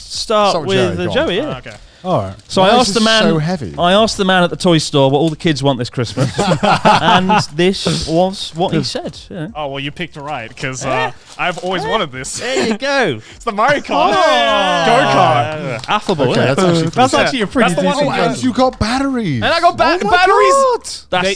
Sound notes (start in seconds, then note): 6.0 laughs; 13.6 hands clapping